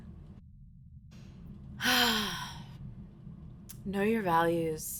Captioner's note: sighing